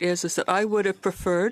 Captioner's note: speaking French